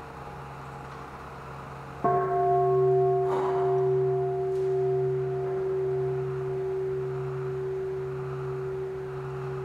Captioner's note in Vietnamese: chuông